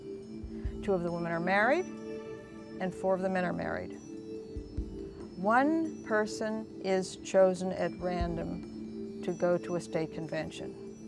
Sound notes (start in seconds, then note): none